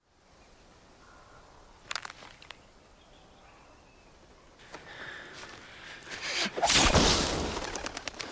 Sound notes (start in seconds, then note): 1.8 twigs crunch; 6.6 wands firing